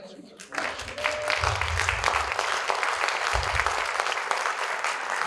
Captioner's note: audience applauding